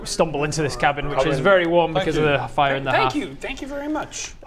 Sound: mumbled thanks

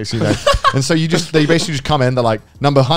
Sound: laughing

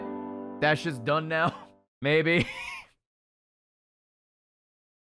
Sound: laughs

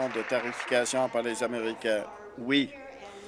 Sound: applause

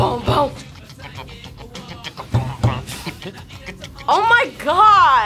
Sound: beatboxes

